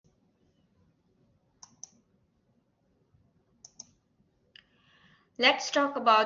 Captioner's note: silence